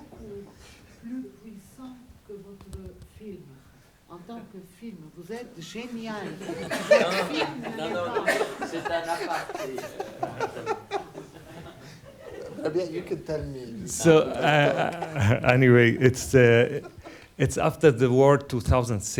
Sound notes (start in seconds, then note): 0.3 speaking a foreign language; 6.2 audience laughs; 10.0 speaking a foreign language